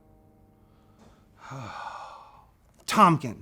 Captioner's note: sigh